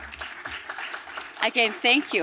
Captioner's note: applause